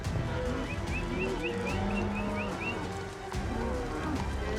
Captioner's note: whistling